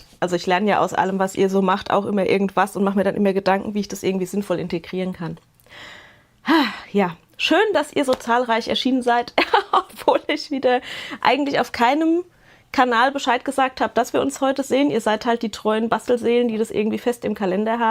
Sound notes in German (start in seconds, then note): 5.6 japst; 6.4 seufzt; 9.3 gelächter